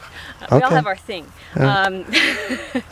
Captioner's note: chuckles